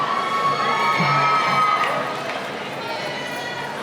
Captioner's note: cheering